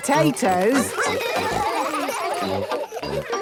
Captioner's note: children giggling